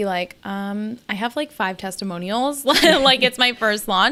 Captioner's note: laughs